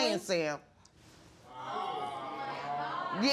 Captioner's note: audience gasps